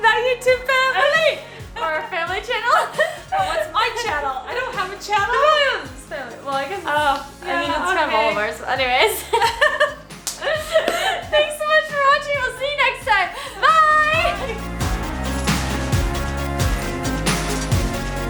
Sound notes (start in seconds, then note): 8.9 laughs; 15.0 lively upbeat music